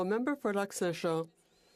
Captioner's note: speaking French